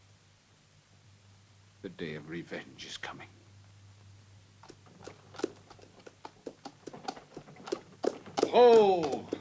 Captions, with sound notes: The day of revenge is coming. (hooves clopping) - Ho!